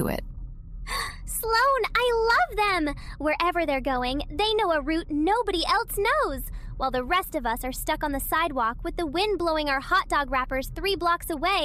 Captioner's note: gasp